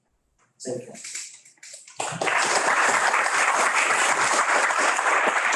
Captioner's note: audience claps